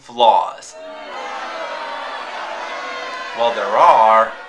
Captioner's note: crowd Boos